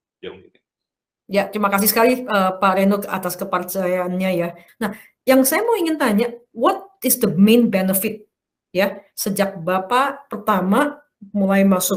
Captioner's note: non-english speech